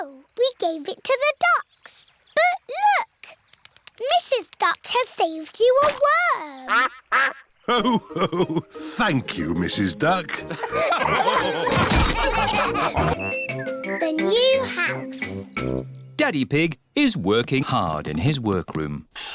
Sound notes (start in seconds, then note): 6.6 quacks; 10.4 laughter